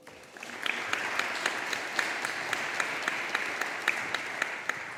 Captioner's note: audience applauding